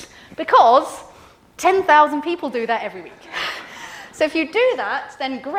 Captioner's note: laughs